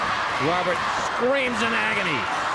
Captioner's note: crowd cheering